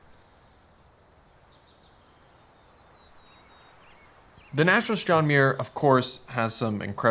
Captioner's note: birds chirping